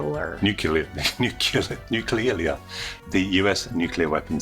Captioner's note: stutters